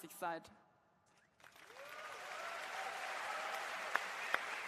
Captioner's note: applause